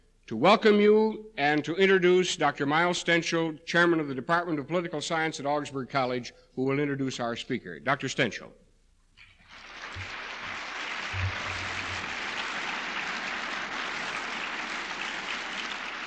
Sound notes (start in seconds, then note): 12.6 applause